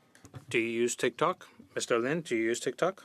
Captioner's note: speaking French